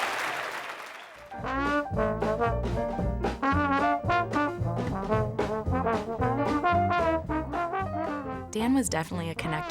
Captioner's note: applause